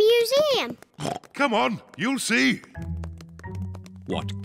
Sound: oinks

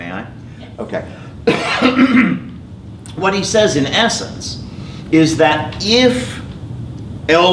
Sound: cough

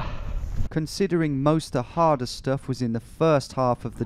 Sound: voiceover

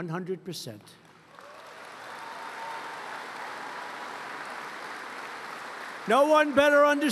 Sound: applause

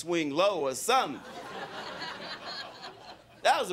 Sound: crowd laughing

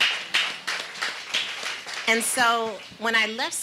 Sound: audience applauding

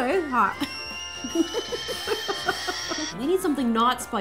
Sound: whistle sounds

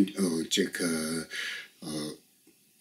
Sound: tibetan

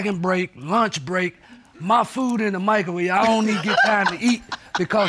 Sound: laughs

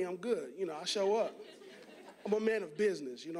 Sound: audience laughing

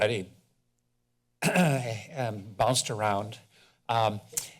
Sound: clears throat

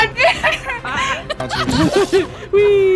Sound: all laughing

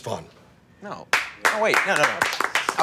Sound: applause

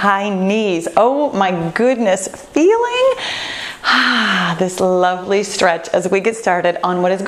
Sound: sighing

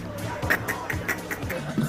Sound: snickers

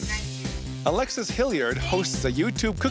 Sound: voiceover

